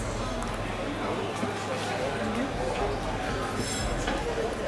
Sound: crowd murmuring

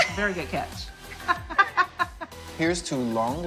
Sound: laughing

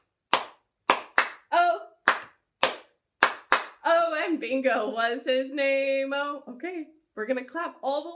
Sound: clap, clap, clap, clap; clap, clap, clap, clap

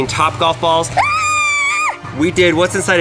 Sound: screams

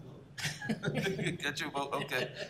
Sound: laughter

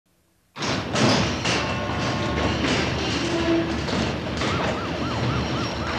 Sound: door clanging; cars hooting; sirens ringing

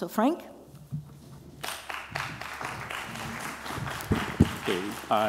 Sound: applause

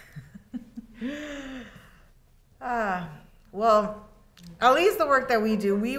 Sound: laughs

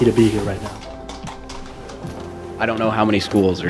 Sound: horse galloping

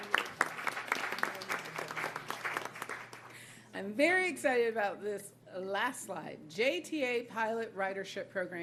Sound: applause

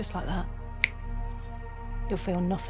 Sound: clicks fingers

